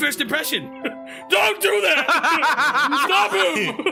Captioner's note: laughs; laugh